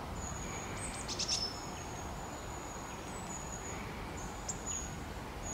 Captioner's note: bird singing